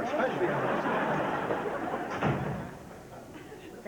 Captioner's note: door closes